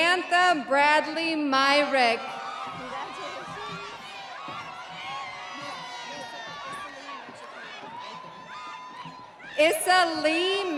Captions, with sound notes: Samantha Bradley Myrig. (audience applauding) (audience cheering)